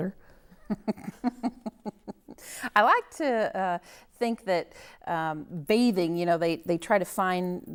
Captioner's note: chuckling